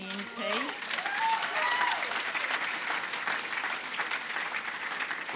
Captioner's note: cheering, applause